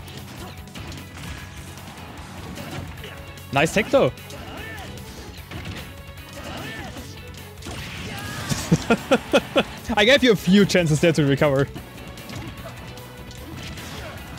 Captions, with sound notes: Nice tech, though! *laughs* I gave you a few chances there to recover.